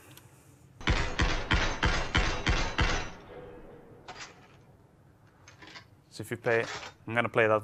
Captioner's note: gunshots